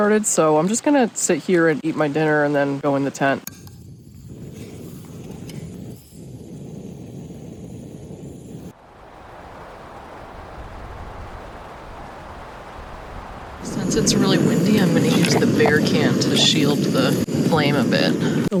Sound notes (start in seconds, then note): 8.5 wind blowing